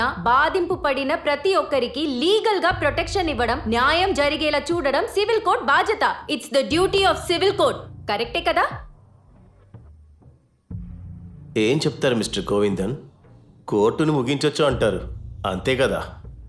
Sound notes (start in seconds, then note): none